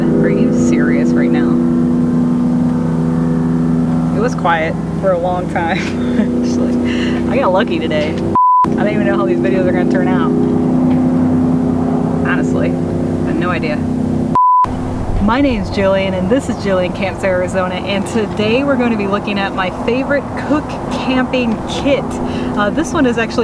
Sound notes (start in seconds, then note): 5.6 laughs